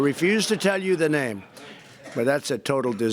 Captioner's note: laughter